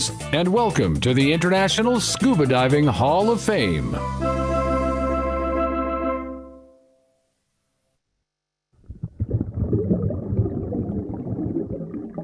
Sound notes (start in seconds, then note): 8.8 bubbling